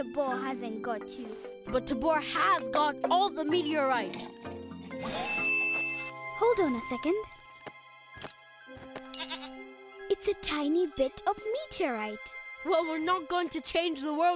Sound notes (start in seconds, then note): 4.9 chiming; 9.1 bleating